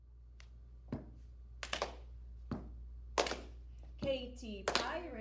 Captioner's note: stomp